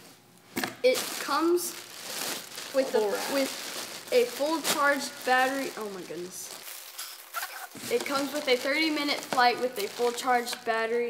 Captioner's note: bubble wrap